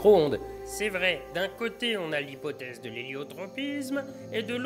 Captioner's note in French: Voix de fond